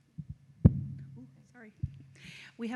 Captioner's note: microphone thuds